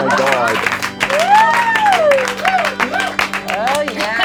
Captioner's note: cheering and clapping